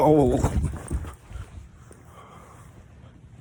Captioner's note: heavy breathing in espanol